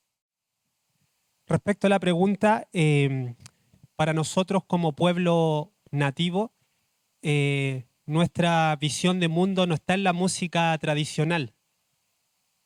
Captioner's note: speaking Spanish